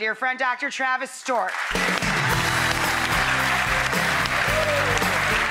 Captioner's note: crown applauds